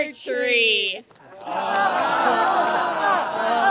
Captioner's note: laughter